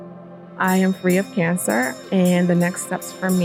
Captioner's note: bell ringing